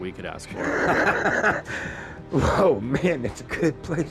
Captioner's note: laughs